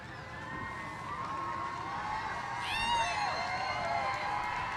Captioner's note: cheers